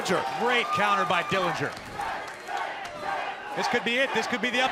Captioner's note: crowd cheering